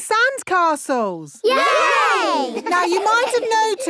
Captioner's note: laughing